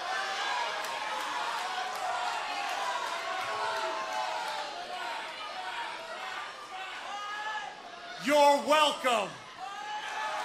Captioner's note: crowd chatter